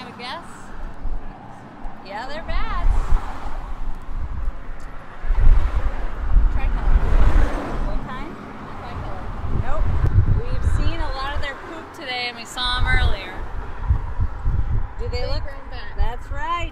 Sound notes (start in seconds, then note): 2.7 noise of traffic on roadway; 11.4 noise of traffic